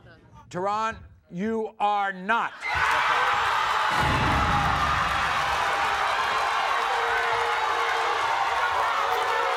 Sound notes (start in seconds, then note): 2.5 crowd screaming